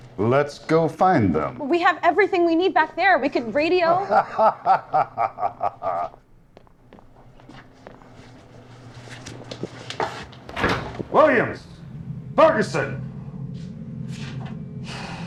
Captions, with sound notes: -Let's go find them. -But we have everything we need back there. We could radio? [laughing] [door opens] Williams? Ferguson?